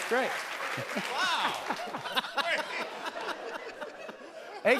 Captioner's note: laughter